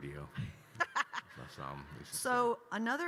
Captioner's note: laughing